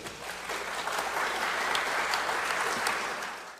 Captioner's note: applause